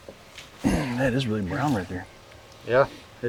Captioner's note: grunts